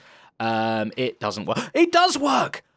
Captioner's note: gasps